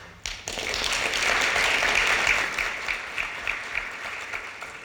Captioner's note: audience applauding